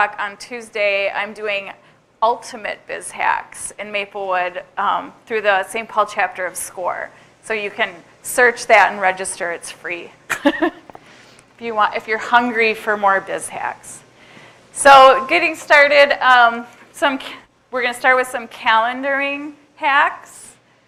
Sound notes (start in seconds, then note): 10.3 chuckles